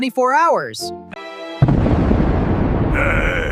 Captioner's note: thumder clapping